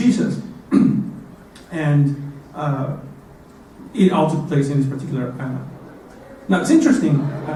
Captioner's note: cough